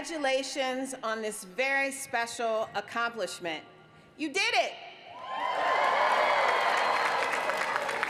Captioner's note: applause